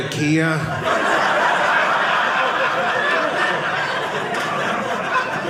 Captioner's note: audience laughing